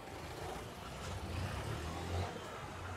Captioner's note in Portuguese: Barulho de carro